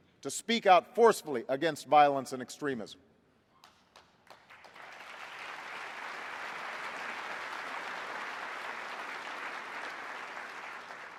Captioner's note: applause